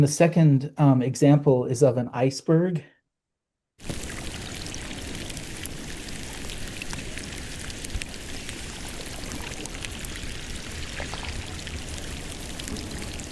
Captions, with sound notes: In the second example is of an iceberg. [water gushing]